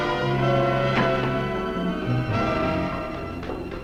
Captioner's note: tense dramatic music; door slamming